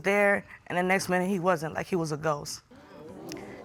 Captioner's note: audience exclaims